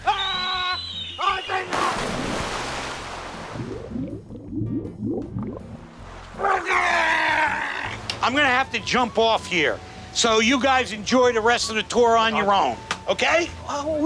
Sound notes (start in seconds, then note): 0.9 gargling; 0.9 screaming